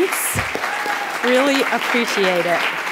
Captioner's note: attendees applauding